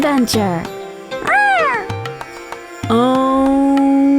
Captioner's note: Joy meows